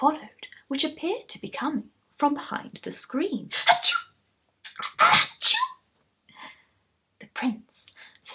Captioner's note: more sneezing